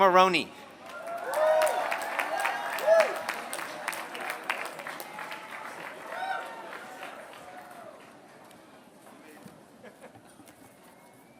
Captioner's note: applause